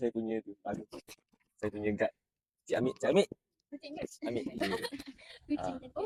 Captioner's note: laugh